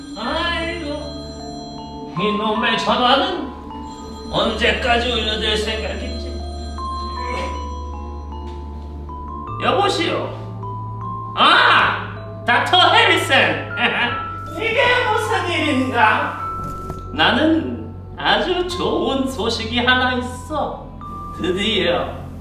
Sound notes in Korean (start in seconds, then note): 3.6 전화 벨소리 - 계속; 13.6 들뜬 웃음